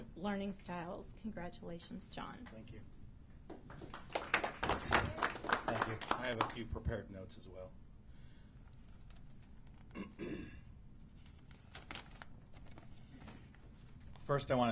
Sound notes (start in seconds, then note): 3.5 applause